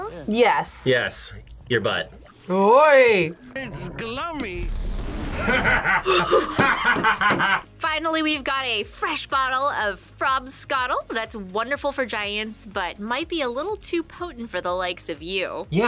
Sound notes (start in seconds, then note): 5.3 both laugh